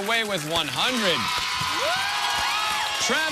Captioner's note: cheers and applause